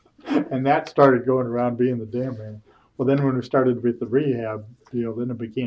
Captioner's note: laughter